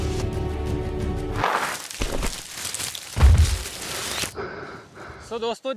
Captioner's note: stumbles